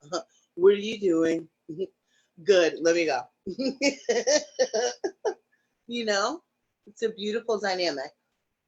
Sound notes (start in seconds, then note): 3.6 laughs